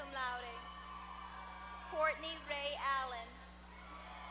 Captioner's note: applause; applause